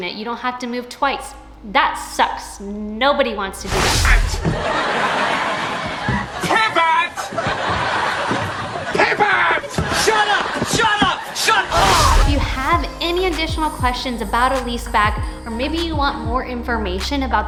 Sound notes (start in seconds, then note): 4.3 audience laughing